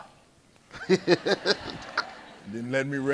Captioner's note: everyone laughing